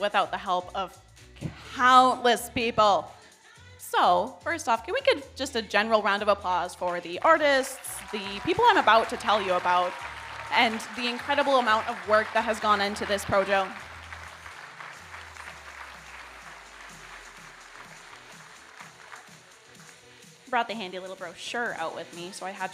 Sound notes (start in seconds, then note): 15.0 audience applauding